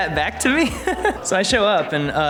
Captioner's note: laughs